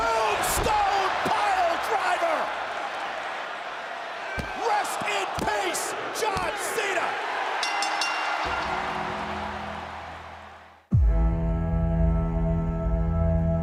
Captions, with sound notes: Tombstone Piledriver! Rest in peace, John Cena. (bell rings) (audience cheering) (dramatic music)